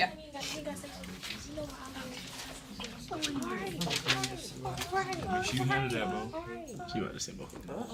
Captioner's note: students murmur